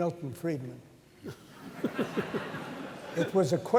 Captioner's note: laughter